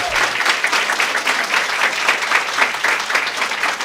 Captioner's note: applause